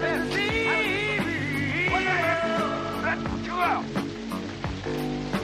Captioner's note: shouting, Sneezes